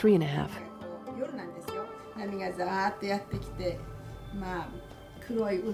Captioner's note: speaking in foreign language